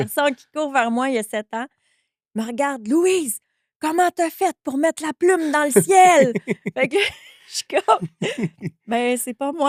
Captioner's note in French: rires